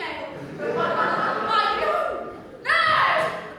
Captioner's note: audience laughter